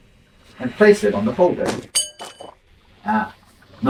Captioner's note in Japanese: カチンという金属音